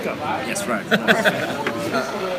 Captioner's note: laughs